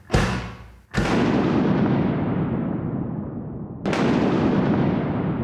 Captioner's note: thunder crashes